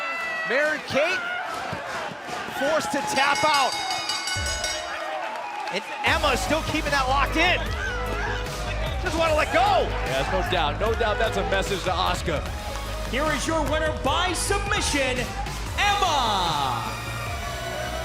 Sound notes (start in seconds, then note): 3.0 bell